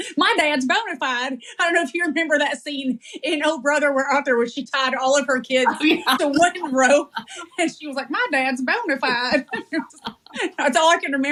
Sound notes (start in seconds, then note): 5.6 laugh